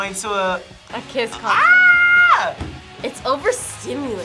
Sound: screams

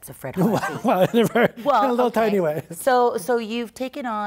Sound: laughs

